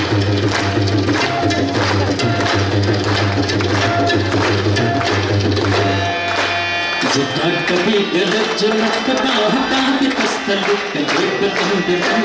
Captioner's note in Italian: Applauso